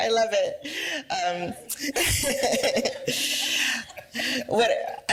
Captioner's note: laughter